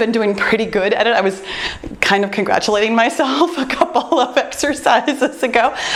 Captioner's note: laughs